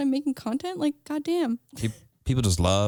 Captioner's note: laughs